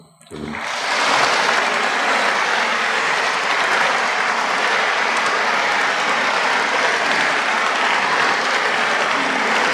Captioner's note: applause